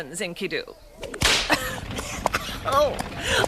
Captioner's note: coughs